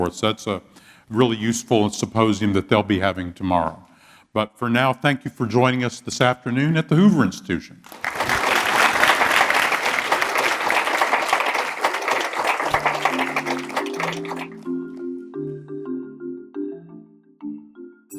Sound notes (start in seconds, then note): 8.0 applause